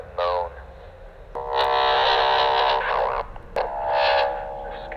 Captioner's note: intense static interference; interference continues